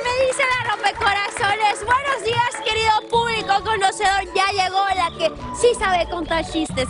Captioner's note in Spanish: aplausos